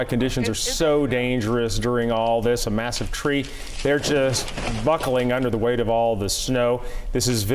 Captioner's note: crunching